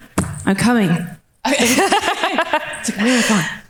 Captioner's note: laughing